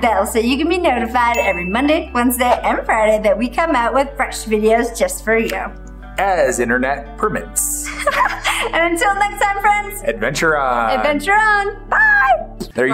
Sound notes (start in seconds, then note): 7.8 laughs